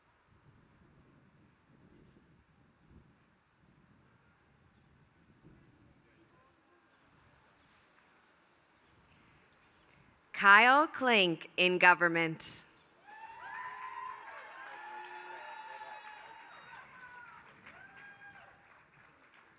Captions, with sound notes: Kyle Klink in government. [APPLAUSE]